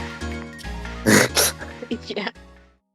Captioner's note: gross breath sound